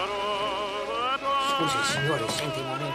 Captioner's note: speaking foreign language